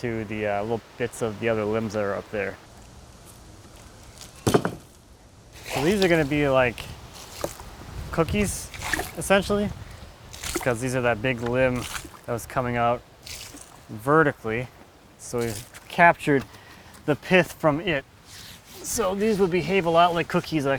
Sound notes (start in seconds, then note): 4.4 wood thudding; 10.8 water splashing